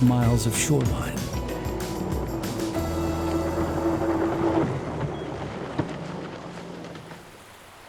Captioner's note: boat engine sound; water babbling